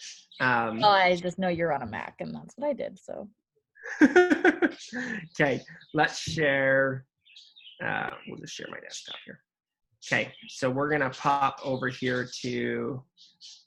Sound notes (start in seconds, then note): 3.8 laughs